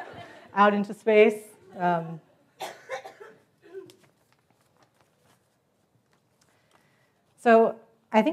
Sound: laugh

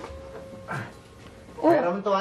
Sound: Fidel grunts

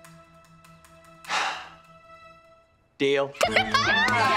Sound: sighing; laughing

